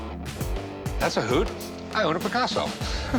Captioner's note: chuckles